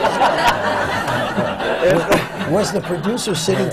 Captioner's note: laughter